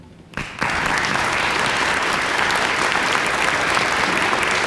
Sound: clapping

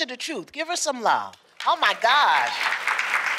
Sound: applause

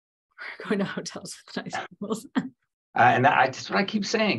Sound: laughing while mumbling

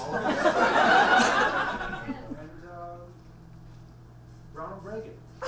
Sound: audience laughs

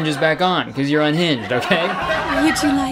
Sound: audience applauding

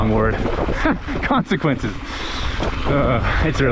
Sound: laughs

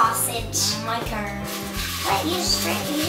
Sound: rustling

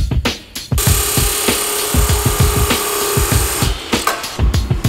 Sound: sparks buzzing

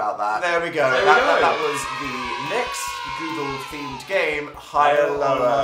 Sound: children cheering

